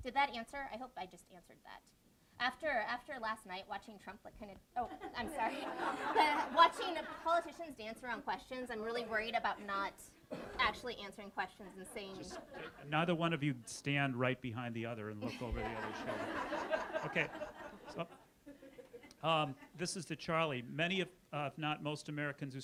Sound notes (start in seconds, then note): 5.0 audience laughs; 15.2 audience laughs